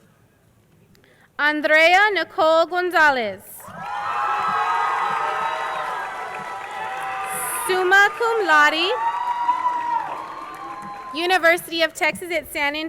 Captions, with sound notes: Andrea Nicole Gonzalez, (crowd cheering and applauding) summa cum laude, University of Texas at San Antonio.